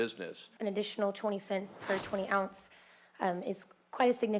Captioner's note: voiceover